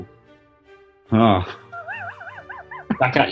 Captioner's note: chuckling